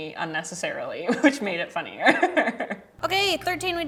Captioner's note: laughs